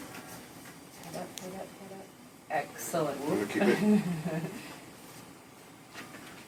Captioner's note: laugh